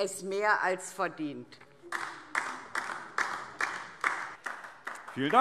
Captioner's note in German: Beifall DIE LINKE